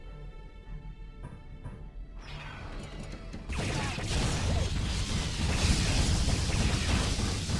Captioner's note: explosion